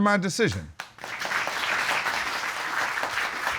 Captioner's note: applause